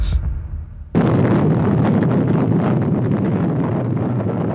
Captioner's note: rocket roaring